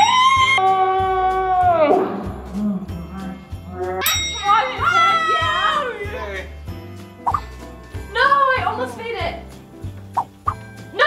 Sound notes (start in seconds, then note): 0.2 cheering alternating slow and normal speeds; 4.0 triumphant bell sound; 4.7 cheering; 7.5 whooshing sound